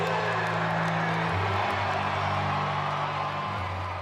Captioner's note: audience cheering